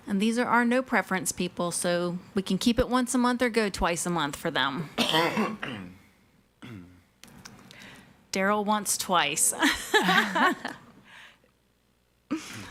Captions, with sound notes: And these are our no preference people. So, we can keep it once a month, or good twice a month for them. (man coughs) Daryl wants twice. (women laughing)